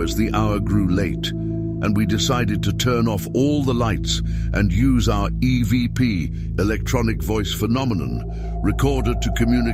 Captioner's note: electronic Voice Phenomenon